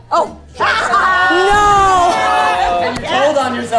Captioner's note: laughter